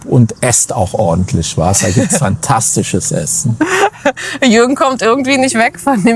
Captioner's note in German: gelächter